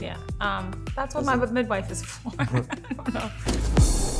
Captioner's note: laughs